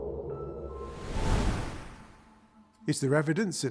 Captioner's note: wind whooshing